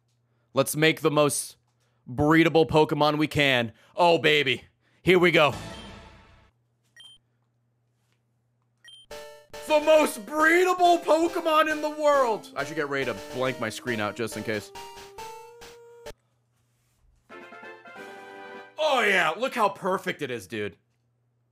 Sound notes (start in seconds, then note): none